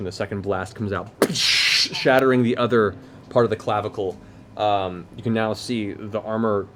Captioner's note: gunshot